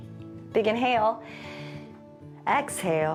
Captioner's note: exhales; inhales